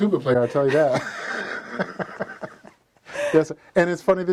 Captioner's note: laughs